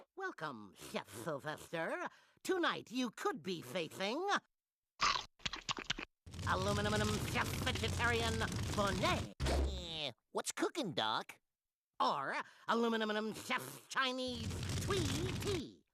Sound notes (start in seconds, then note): 5.0 chomping